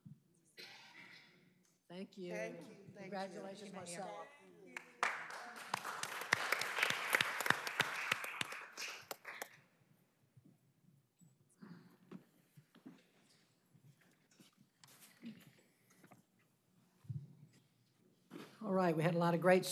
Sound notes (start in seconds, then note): 8.6 applause